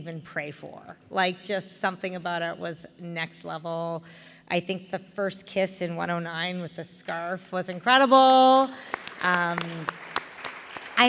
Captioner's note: applause for scarf kisses